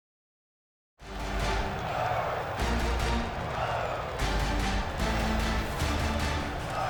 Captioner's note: crowd woos